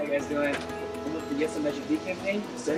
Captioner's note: voiceover